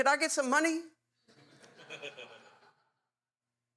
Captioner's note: audience Laughing